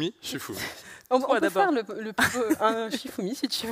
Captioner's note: laughs